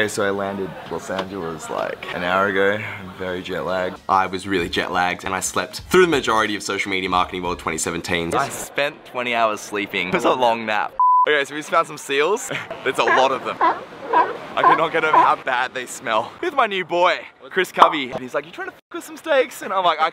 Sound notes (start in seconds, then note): 11.0 beep; 12.7 seals barking